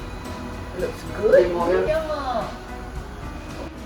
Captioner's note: Cantonese